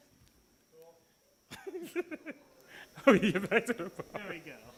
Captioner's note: laughing